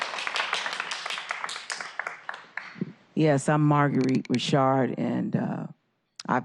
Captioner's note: applause